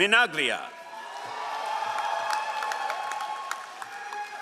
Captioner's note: all applauding